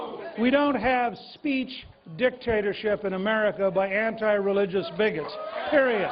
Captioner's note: cheers and applause